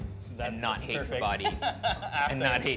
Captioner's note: laughs